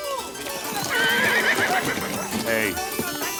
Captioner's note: suspenseful music; horse neighs